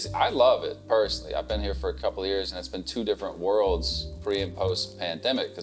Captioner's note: none